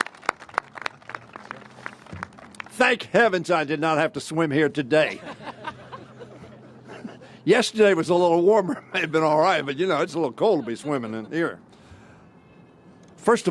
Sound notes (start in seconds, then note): 0.0 applause; 5.0 laughter